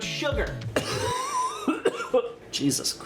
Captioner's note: coughing